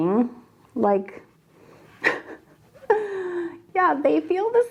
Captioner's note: chuckles